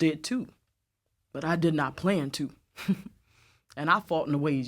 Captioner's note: laughs